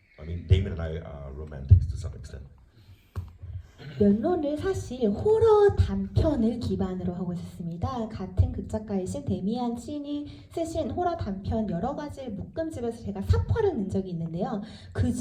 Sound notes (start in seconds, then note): 4.3 speaks in foreign language